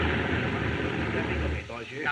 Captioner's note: men Speaking Chinese